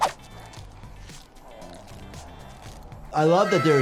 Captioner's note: mutants growling faintly